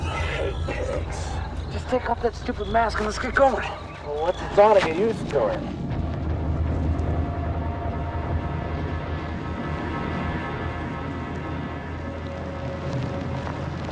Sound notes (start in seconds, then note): 4.7 buzz; 9.8 dark ambient music